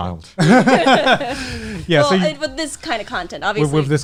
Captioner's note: laughing